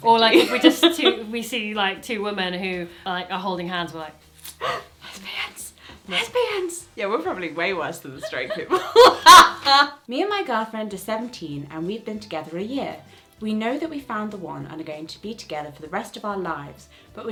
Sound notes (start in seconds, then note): 4.5 gasps; 8.2 she laughs